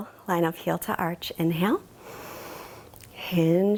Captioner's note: inhales deeply